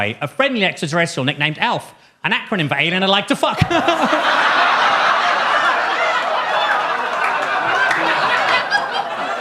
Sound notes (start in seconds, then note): 3.5 audience laughs; 3.6 laughs